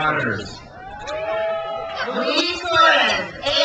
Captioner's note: crowd cheers